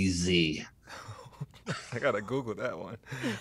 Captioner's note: laughter